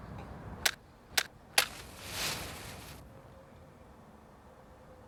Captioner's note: match striking